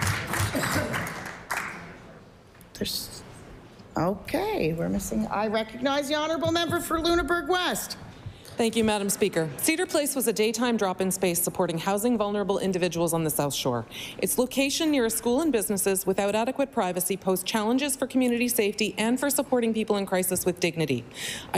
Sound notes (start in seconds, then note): 2.4 applause